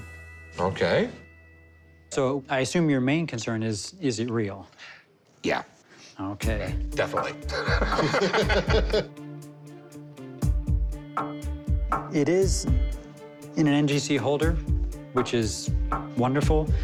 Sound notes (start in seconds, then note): 7.2 laughs